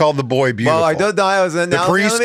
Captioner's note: speaks gibberish